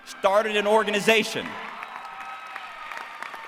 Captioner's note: applause